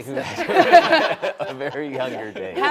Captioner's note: all laughing